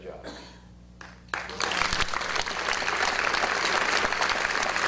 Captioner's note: audience applause